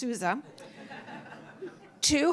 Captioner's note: laughter